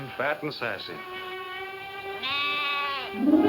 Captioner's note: lambs bleating; soft music